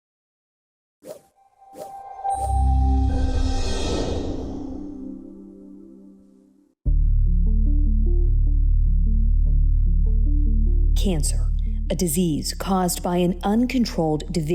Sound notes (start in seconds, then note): 1.6 logo whooshing; 7.1 upbeat music